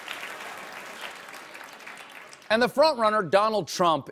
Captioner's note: applause